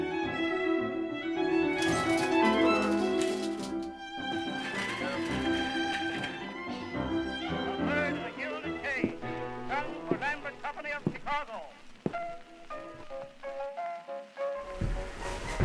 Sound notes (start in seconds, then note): 8.1 staticky radio